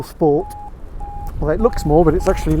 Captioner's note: Vario beeps